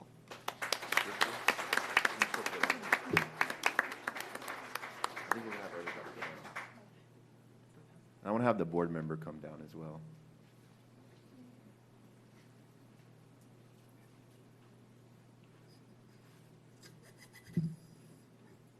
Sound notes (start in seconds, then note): 5.9 applause